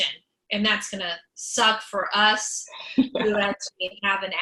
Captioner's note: laughs